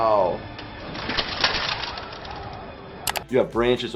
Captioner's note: armor clanging